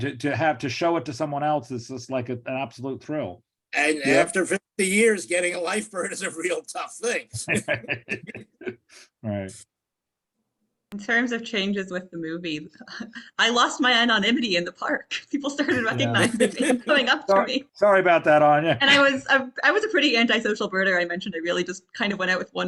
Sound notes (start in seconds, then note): 7.3 laughs; 15.6 laughs